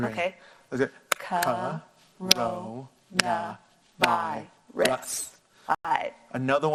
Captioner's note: clapping